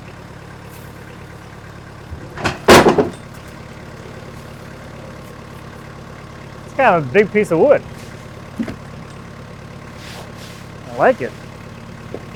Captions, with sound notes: (wood thuds) (engine revving continues) It's kind of a big piece of wood. I like it.